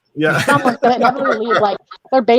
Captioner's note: laugh